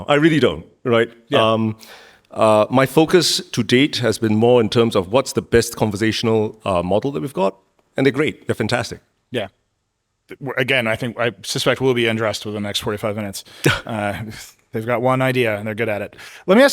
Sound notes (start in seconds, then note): 13.9 Min chuckling